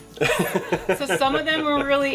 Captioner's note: laughing